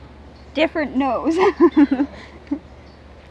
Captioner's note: laugh